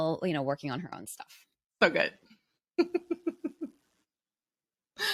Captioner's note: laughs